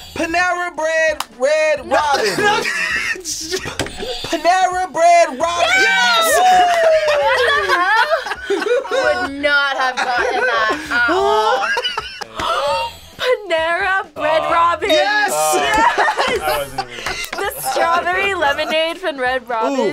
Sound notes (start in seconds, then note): 2.0 laughs; 3.5 buzzer rings; 12.3 gasps